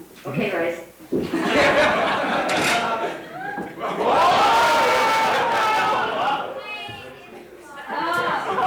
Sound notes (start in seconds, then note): 1.3 audience laughs and cheers